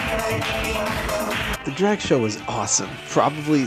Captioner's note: fancy voiceover